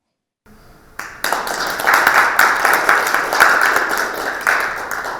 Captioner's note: audience applauding